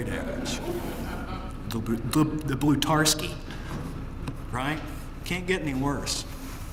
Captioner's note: laugh